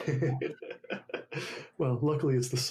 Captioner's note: laughs loudly